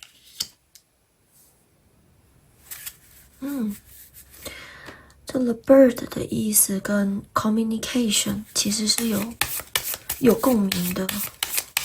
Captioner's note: drawing cards